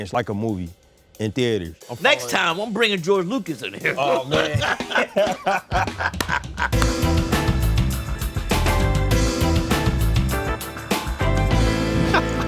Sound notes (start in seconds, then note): 3.8 both laughing; 6.6 gentle upbeat music